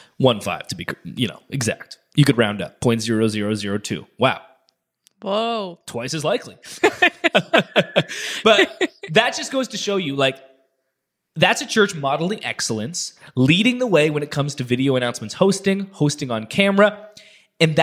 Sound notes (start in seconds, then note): 6.6 laughing